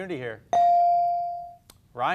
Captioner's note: beep